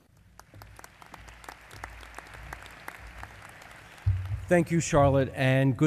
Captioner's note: applause